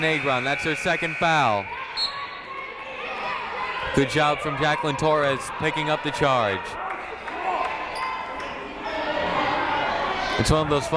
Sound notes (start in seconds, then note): 2.2 buzzer ringing; 2.2 whistle tweeting; 3.1 people shouting in the crowd; 6.7 people shouting in the crowd